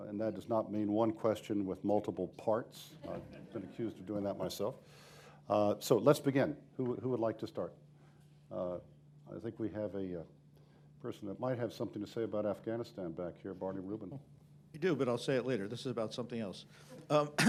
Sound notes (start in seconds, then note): 3.0 laughter